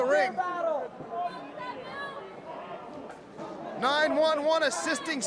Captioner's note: crowd chatter